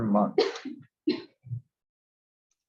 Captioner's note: cough